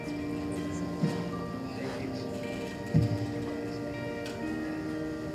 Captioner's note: speaking in foreign language